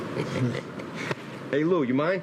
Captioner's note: chuckles